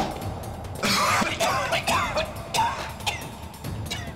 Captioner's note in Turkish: Düşme sesi; Öksürme sesi